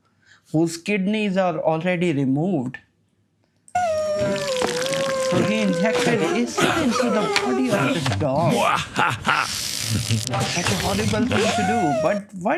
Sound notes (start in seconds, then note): 3.7 dog whining; 8.8 laughing evilly